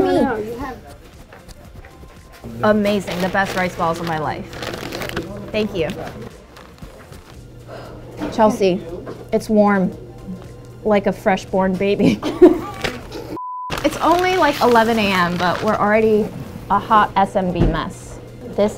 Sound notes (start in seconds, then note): 4.6 bag crinkling; 12.0 laughing